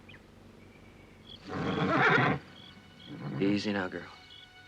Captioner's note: horse neighing